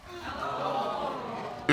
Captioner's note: audience exclaims